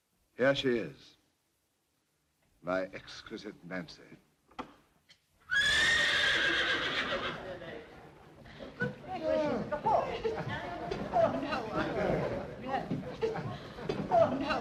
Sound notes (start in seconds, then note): 5.4 horse whinnies; 8.0 murmurs of surprise